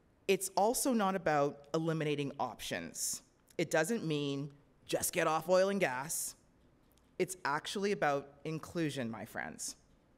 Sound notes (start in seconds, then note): none